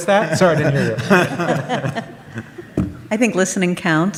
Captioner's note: audience laughs